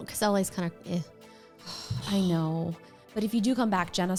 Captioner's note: scoffs